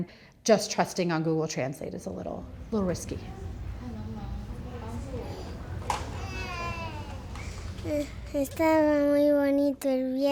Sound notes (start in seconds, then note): 3.8 woman speaking in a foreign language; 5.9 baby crying